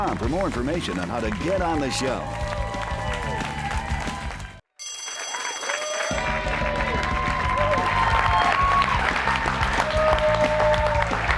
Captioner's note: cheers and applause